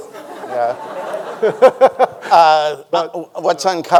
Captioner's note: laughs